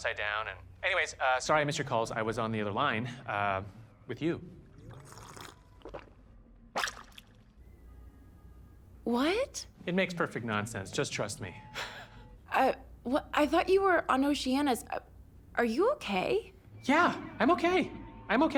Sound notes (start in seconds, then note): 4.6 slurp, gulp; 11.2 chuckles softly